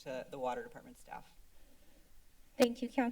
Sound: silence

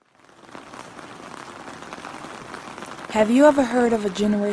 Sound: rain falling

